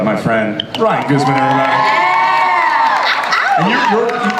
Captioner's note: audience and panelists cheer